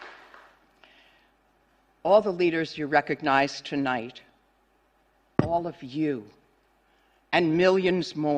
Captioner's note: applause